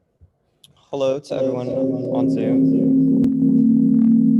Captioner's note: echoing